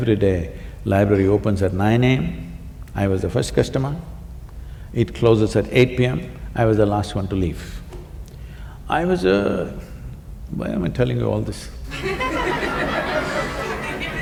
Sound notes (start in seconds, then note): 11.9 laughter